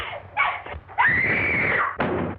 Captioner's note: screaming; thud